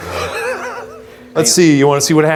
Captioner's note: laughs